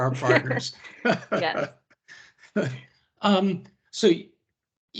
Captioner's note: laughter